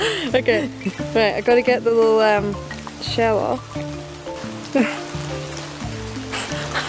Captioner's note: laughing